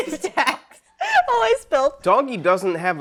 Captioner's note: laughing